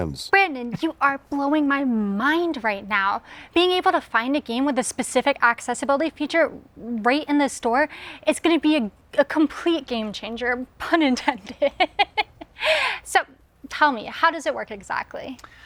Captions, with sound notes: Brannon, you are blowing my mind right now, being able to find a game with a specific accessibility feature right in the store? It's going to be a complete game-changer, pun intended. [LAUGHS] So tell me, how does it work exactly?